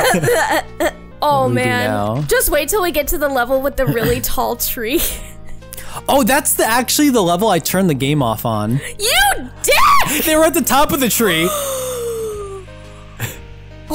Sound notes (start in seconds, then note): 0.0 both Laughing; 12.8 gasp